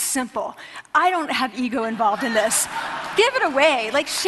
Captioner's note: laughter